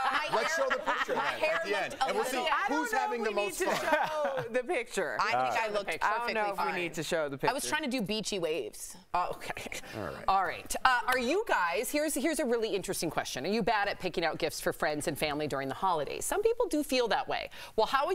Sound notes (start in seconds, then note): 3.6 laughter